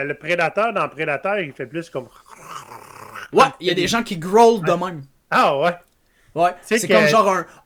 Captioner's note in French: cliquetis de dents